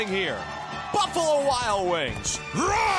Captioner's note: roars